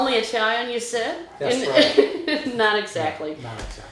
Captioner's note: laughing